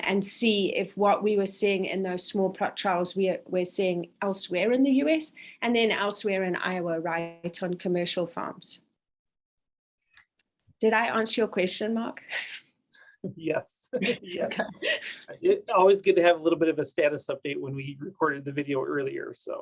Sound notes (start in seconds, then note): 13.9 chuckles; 13.9 both chuckling